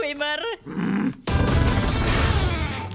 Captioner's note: growls